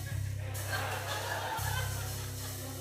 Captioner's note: laughter